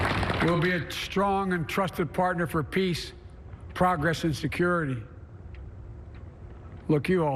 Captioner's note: applause